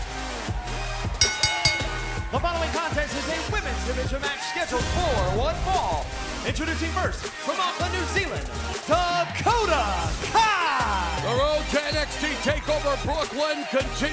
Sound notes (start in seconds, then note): 1.2 bell ringing